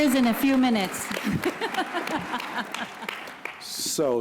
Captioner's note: applause